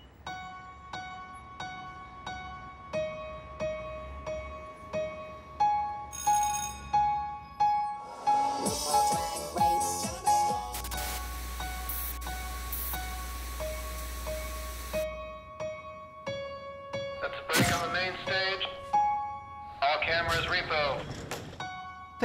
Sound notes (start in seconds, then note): 0.2 soft music; 6.1 ringing; 8.3 theme music; 9.4 static